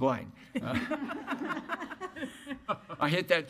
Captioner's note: laughing